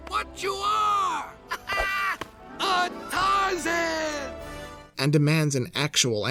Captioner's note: laughs